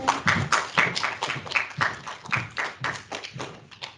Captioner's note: clapping